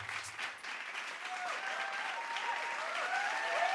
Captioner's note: audience cheering and applauding